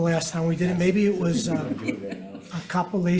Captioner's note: chuckling